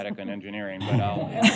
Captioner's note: laughter